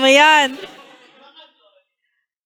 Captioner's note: laughter